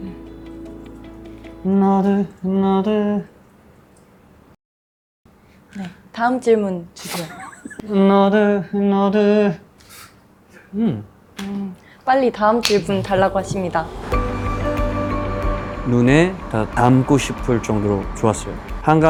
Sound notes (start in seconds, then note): 7.1 laughter; 13.2 hopeful music